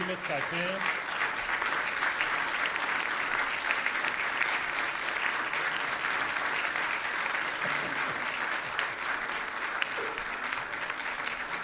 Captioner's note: applause